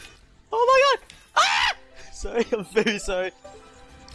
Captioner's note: masculine Scream